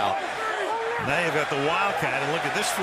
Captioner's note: shouting